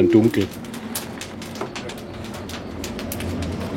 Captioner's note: crackles and crackles